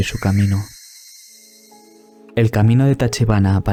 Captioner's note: birds